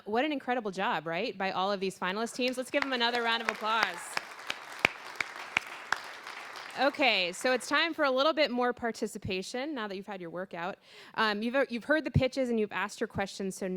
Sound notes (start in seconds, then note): 4.1 applause